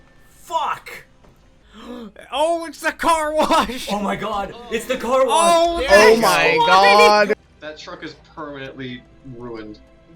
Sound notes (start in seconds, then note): 1.6 gasp